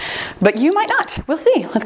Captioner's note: timer beeps